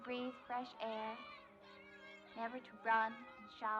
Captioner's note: shouting, Chattering